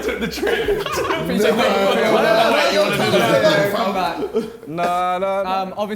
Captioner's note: men laughing